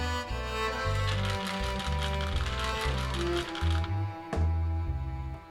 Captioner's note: nuts rattling